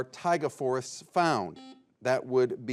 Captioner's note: buzzer beeps